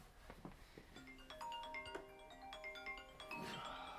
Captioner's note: phone rings